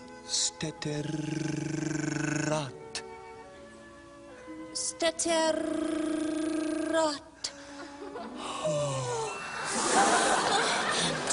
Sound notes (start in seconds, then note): 8.4 they sigh